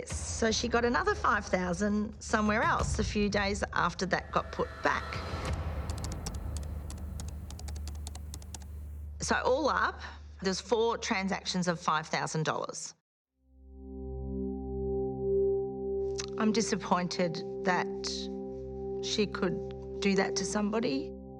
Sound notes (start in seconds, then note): 5.3 dramatic music continues; 5.8 keyboard clicking; 13.6 curious music